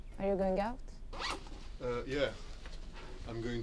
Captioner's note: zipper whirring